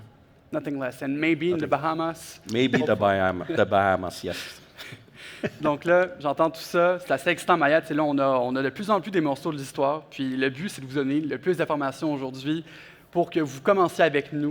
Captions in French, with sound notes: - Rien de moins. Et peut-être aux Bahamas. - Peut-être aux Bahamas, oui. (rires) - Donc là, j'entends tout ça, c'est assez excitant. Maya, t'sais là, on a de plus en plus des morceaux de l'histoire. Puis le but, c'est de vous donner le plus d'informations aujourd'hui pour que vous commenciez avec nous